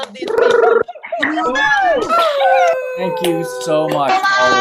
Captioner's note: all cheering